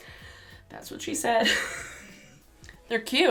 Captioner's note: laughs